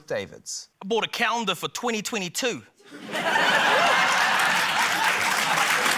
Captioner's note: laughter, applause